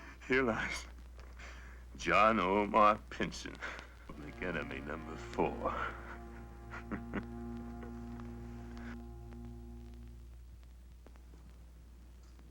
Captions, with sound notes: Here lies John Omar Pinson, public enemy number four. (Pinson chuckles)